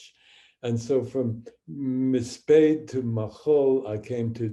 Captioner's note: speaking hebrew